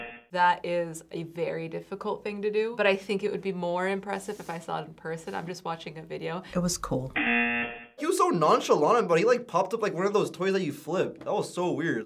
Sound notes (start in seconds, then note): 7.1 buzzer